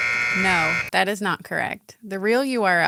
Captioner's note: buzzer sound